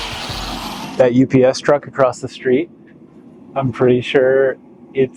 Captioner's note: sounds of grinding, hammering, and shop work